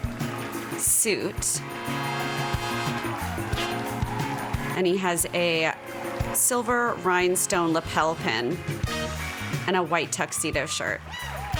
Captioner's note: applause